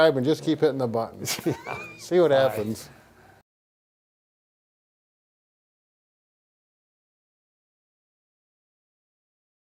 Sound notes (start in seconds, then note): 1.2 laughing